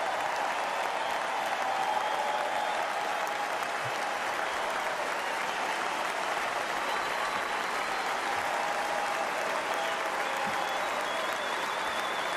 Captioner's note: cheers and applause